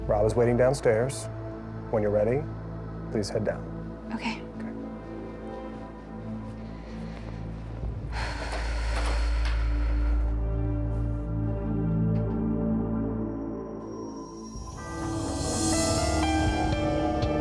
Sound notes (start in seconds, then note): 7.7 exhales; 14.4 soft tense music